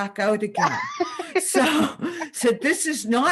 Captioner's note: laughter